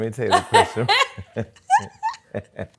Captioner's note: laughter